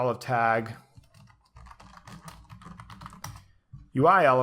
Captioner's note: typing on keyboard